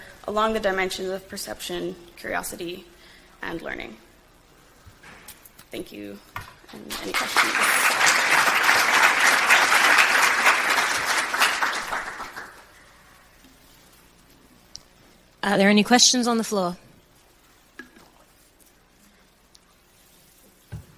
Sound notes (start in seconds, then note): 6.9 audience claps